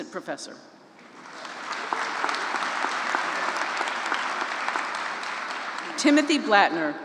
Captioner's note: applause